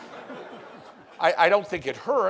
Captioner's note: laughing